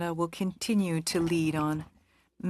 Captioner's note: speaking French